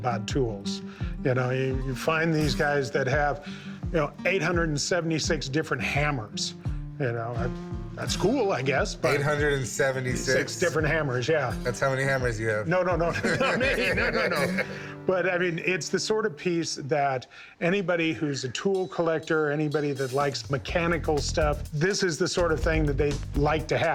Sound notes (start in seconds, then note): 13.0 laughs